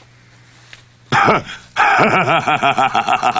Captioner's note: laughs